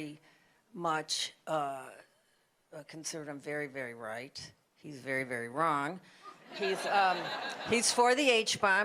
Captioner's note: laughter